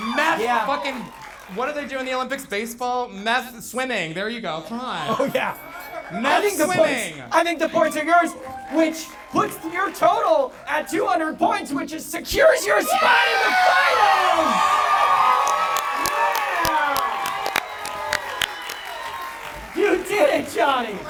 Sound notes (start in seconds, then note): 13.2 audience applauding